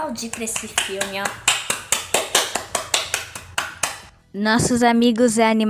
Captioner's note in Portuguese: Aplausos